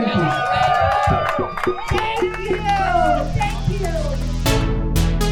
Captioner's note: crowd cheers